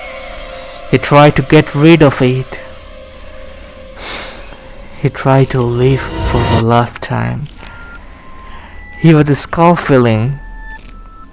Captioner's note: breath